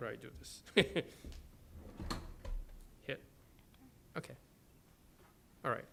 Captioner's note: laughs